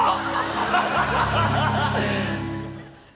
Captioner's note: laughter